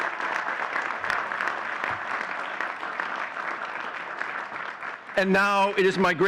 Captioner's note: audience cheering and clapping